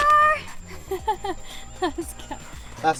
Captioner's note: laughs